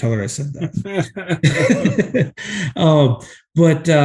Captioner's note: both laughing